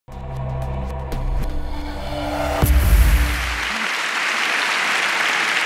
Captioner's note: applause